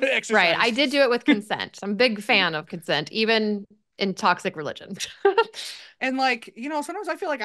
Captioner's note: laughs